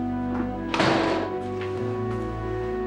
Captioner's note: door closes